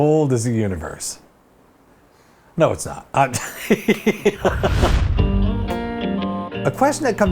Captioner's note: laughs